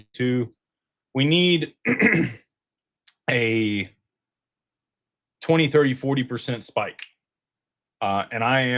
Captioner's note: clears throat